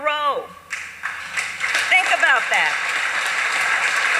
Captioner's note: applause